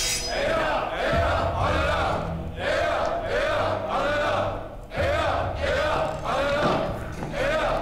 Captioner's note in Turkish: Kılıç sesleri; Hep bir ağızdan; Yabancı dilde konuşma